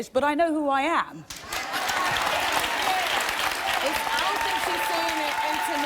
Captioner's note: audience cheering